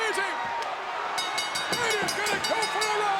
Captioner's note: bell dinging